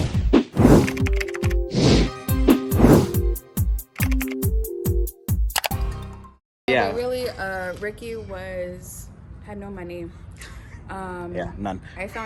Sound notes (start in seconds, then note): 1.0 keyboard clacking